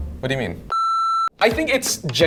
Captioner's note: beep